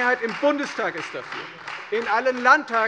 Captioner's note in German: Beifall Freie Demokraten